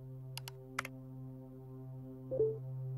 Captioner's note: mouse clicking; somber music